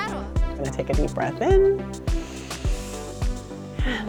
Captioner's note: inhales